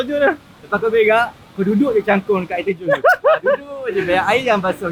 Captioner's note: laugh